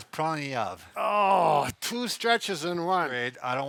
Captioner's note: groans